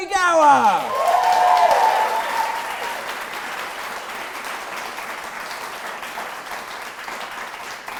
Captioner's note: audience applause